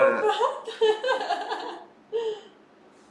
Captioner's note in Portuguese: risos